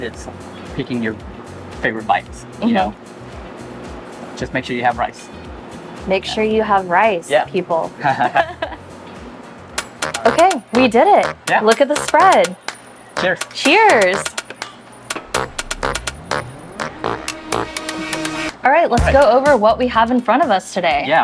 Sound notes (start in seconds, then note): 8.0 laugh; 14.4 funky music